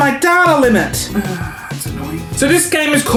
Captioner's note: sighs